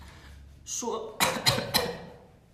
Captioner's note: coughs